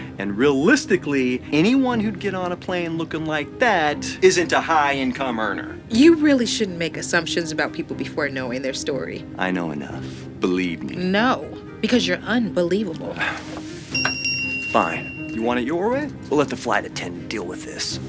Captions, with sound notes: And realistically, anyone who'd get on a plane looking like that isn't a high income earner. You really shouldn't make assumptions about people before knowing their story. I know enough, - Believe me. - No, Because you're unbelievable. (Sighs) Fine. You want it your way? We’ll let the flight attendant deal with this.